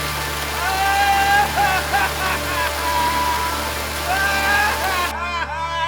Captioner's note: yelling and laughing